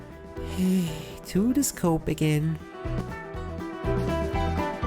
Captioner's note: sigh